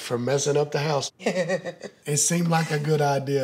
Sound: laughs

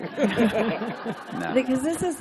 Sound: laughter

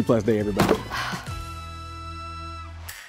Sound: sighs

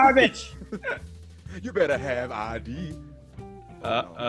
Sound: laugh

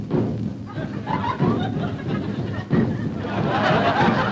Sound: drums beating; audience laughing

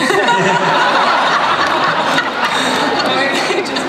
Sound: laughter

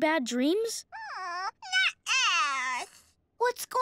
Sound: whining

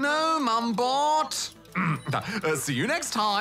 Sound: whiningly; clears throat

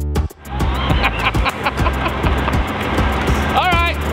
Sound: laughing

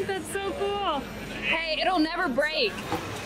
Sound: murmurs

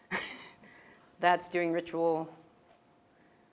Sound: laugh

